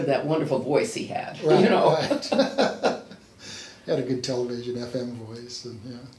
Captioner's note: laughs